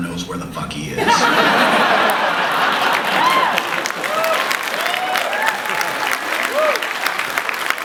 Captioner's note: lots of laughter and applause